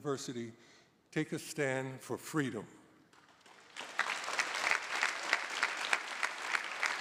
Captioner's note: audience applauding